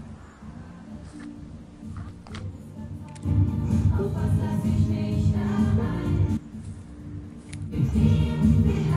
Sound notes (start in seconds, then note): 3.2 happy Techmoan noises